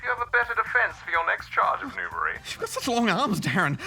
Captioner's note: laughs